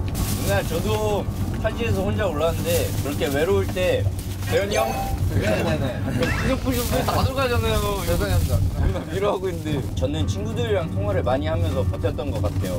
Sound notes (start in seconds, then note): 2.7 crinkle crinkle